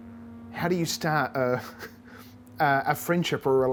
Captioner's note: chuckles